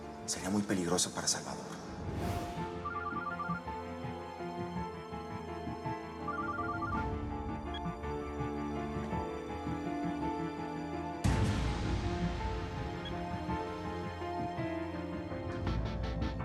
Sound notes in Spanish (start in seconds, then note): 3.0 suena el celular